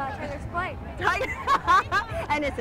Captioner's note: laughs